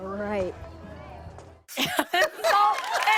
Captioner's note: laughter